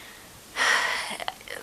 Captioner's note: sigh